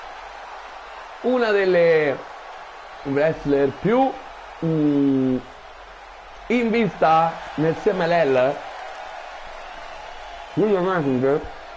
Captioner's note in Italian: Applauso; Applauso